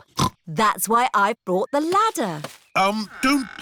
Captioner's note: snorts